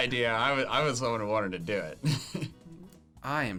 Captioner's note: laughs